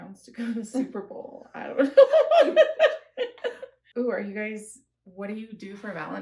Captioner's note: laughter